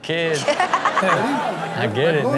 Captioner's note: audience and Chanel laughing